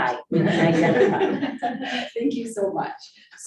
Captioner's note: women laughing